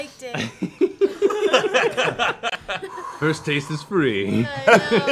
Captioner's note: laughs